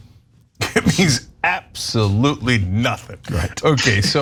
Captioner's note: laugh